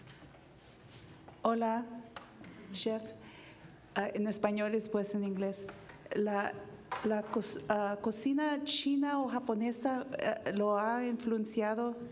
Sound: speaking spanish

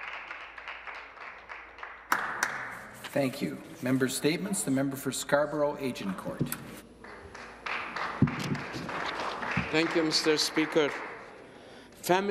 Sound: some Applause

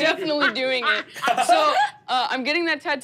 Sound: laughing

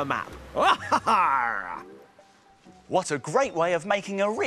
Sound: laughs like a pirate

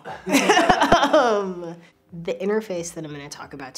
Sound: laughter

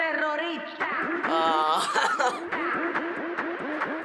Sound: chuckles

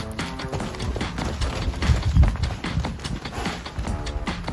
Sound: hooves clomping

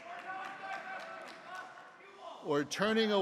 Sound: man shouting

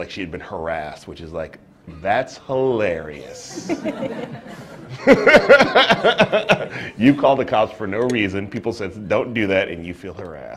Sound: laughter

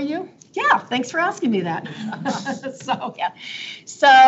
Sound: laughs

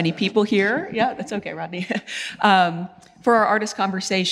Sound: laughs

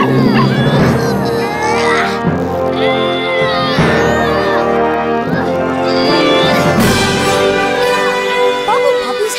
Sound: barking; straining

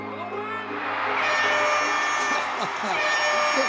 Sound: basketball crowd cheering; air horn sounds; laughs

